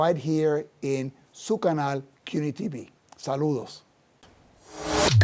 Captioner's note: speaks Spanish